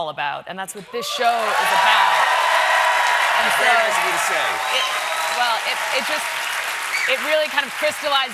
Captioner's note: cheers and applause